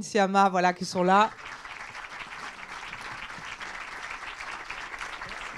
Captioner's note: applause